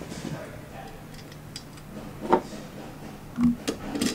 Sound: screwdriver noises

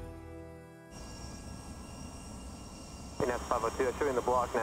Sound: jet flying

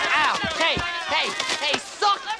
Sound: bullies clamoring

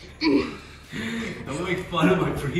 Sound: mimics heavy breathing

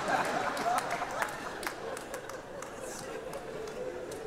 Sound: audience laughing

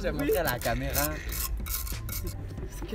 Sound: he's scratching the pot with his fork

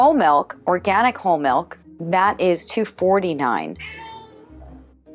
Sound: cat meowing

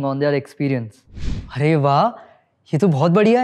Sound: speaking hindi

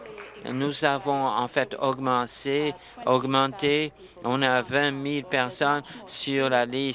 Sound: applause

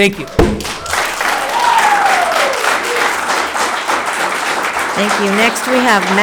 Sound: spectators applauding

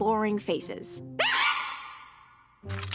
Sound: shrieks

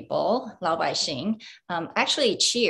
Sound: speaking in foreign language

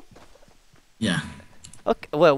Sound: puke

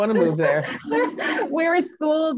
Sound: laughs

